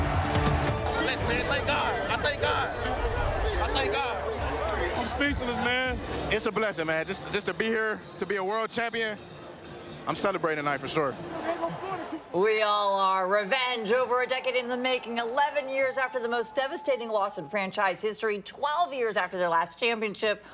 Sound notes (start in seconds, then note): 8.6 laughter